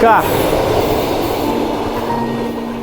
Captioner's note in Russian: шум проезжающего поезда